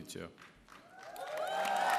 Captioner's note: applause